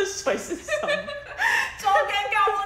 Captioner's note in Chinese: 大笑